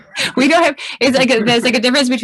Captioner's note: laughs